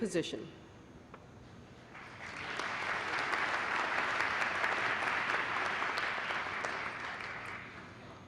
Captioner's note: applause